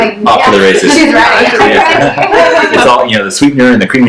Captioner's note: laughs